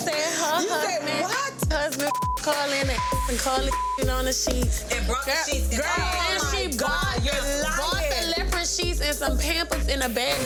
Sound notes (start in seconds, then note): 2.9 beep